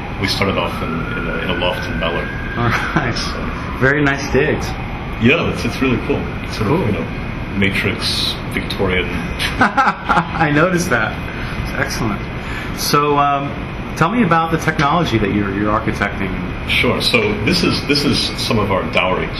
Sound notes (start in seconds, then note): 2.5 laughingly; 9.2 laughs